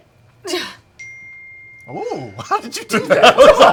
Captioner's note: grunts; a phone dings